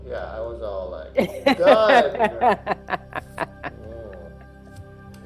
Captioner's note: laughs